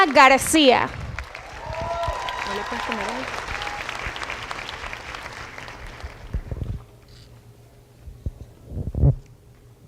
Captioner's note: applause